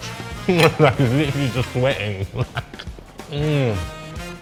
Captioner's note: laughing